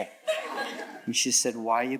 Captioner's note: audience chuckles